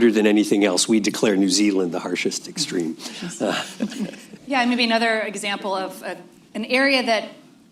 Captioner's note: laughter